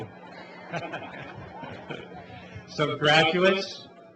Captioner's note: laughing